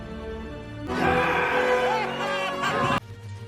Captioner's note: cheering